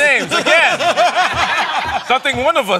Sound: laughter

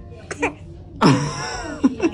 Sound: baby coughs; laughs

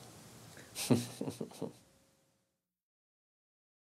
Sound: laughs quietly

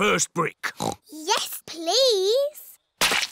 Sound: oinks

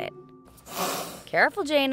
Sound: hissing

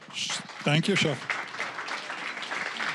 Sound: applause

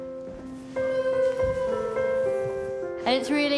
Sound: moaning

